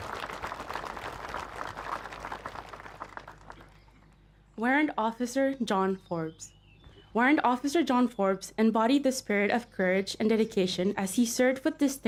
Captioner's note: applause